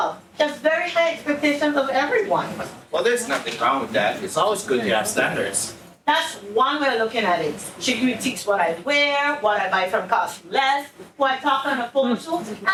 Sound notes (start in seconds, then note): none